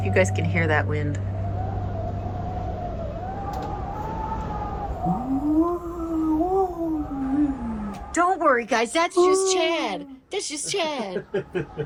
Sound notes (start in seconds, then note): 3.6 wind whistling; 6.0 mimics wind; 6.0 wind whistling; 10.5 laugh; 11.6 wind whistling